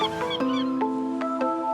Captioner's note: birds chirping